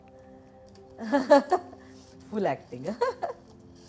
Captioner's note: Chuckles